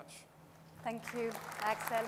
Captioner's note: audience applauds